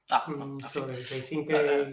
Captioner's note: speaking in foreign language